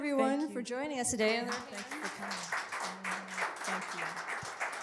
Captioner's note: crowd Applause